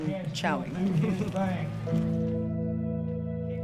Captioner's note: chuckles; event announcer speaking faintly; gentle reflective music